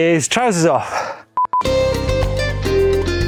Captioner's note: beep; upbeat music